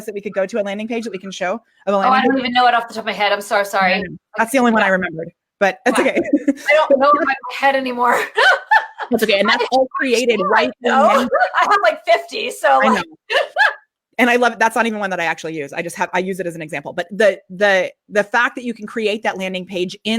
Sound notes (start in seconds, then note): 5.9 laughs